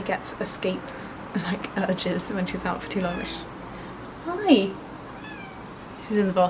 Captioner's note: meow